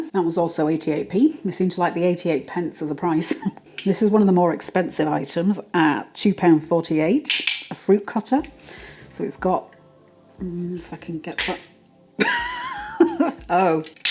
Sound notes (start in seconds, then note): 11.4 snap